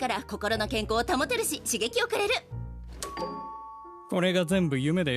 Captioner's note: doorbell rings